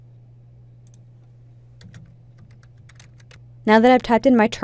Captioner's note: typing